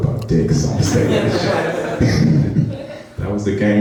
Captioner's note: laughs